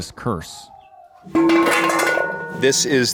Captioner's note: metal clanking